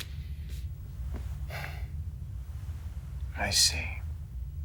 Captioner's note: sighs